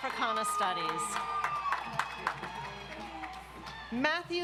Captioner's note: audience applauds